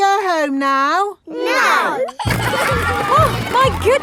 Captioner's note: giggling